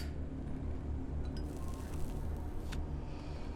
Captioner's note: cigar crackles